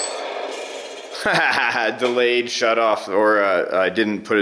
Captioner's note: laughs